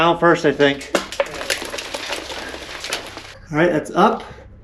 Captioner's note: rocks clattering